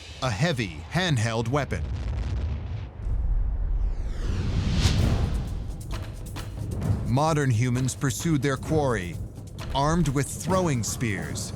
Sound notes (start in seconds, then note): 1.7 deep rumble; 4.4 tense adventure music